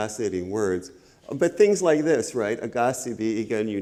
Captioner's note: speaks Ojibwe